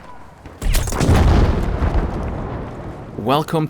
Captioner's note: grenade exploding